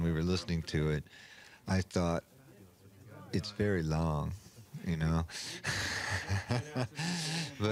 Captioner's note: laughs